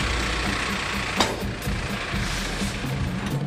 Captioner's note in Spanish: sonido de porton de metal